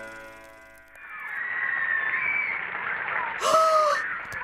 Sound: fangirls scream; excited gasp

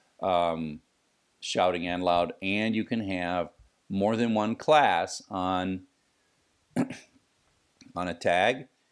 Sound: cough

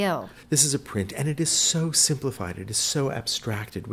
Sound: voiceover

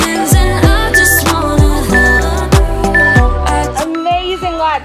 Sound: beeping

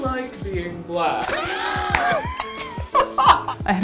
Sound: laughs

